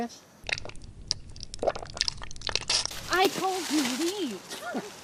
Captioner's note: squishy sound